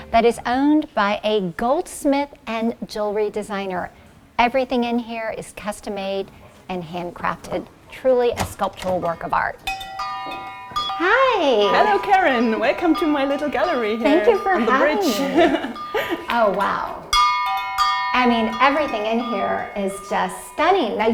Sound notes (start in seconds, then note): 9.7 bell clangs; 14.9 chuckles; 17.0 bells clanging